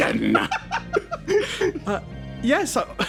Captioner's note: laughs